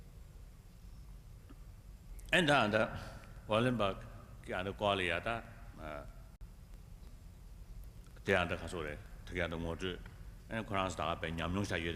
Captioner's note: foreign words